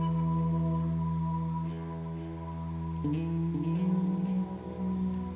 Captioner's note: insects chirping